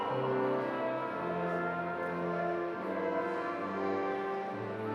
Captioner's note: none